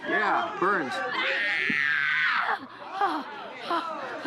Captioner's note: yells